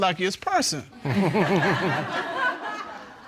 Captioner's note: chuckles